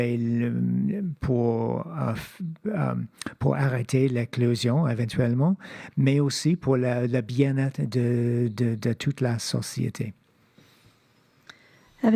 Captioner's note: speaking French